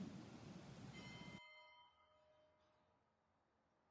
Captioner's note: bell chimes